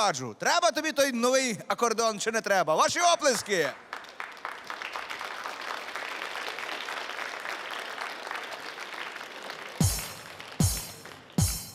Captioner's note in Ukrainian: оплески